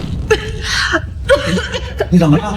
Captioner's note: cough, cough